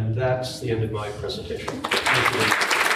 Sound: audience clapping

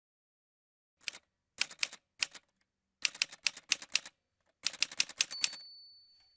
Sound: typewriter Sounds

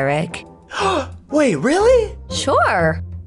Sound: gasp

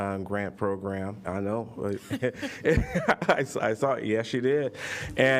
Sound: laughter

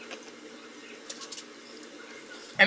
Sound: chewing

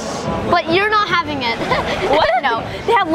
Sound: record scratching

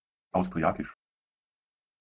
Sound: fast Pronunciation

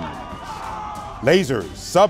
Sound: cheers

